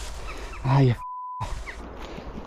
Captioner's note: beep